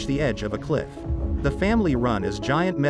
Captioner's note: loud booms